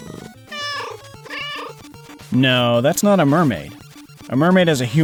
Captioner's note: meow, meow